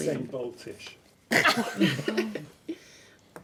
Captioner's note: laughing